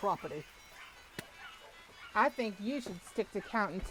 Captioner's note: spits